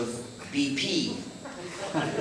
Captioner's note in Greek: Γέλια από το ακροατήριο